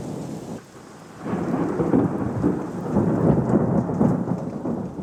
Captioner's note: thunder